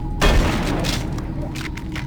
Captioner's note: gun firing